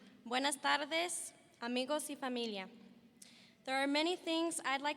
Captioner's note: speaking Spanish